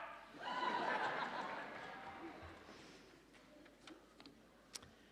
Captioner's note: audience laughing